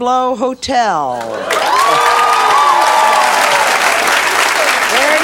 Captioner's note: audience cheers